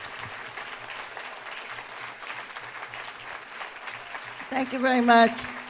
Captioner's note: applause